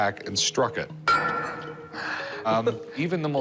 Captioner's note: hammer clang